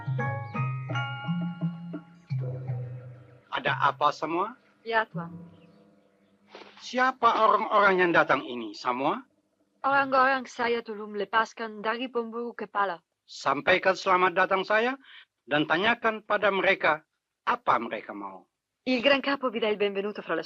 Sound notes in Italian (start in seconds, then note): 6.5 sbuffare